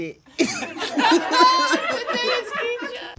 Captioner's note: all laugh